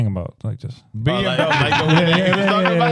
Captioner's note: laughing